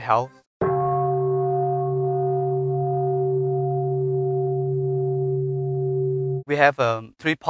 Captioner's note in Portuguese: Som de sino